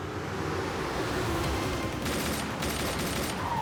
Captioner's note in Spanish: ruido de motor